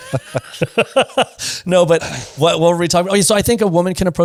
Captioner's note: laughs